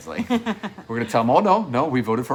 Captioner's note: chuckling